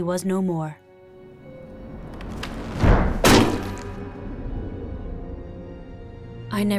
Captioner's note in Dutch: laarzen dreunen; sombere muziek gaat verder